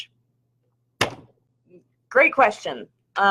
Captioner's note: bang